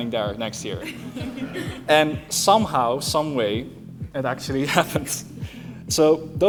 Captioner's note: laughter